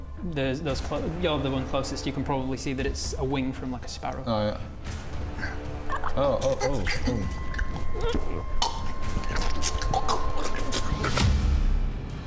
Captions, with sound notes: those close, you're the one closest you can probably see that it's a wing from like a sparrow Eww...oh oh oh... *gulp* *gross slurping noises*